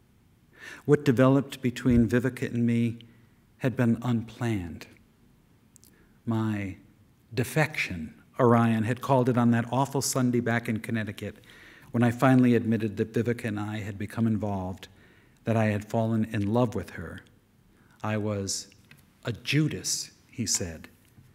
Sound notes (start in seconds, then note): none